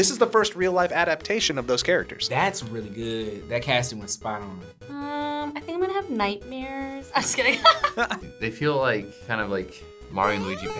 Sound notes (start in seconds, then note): 7.2 laughs